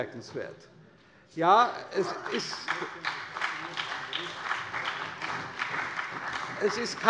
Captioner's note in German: Beifall der CDU, der SPD und dem BÜNDNIS 90/DIE GRÜNEN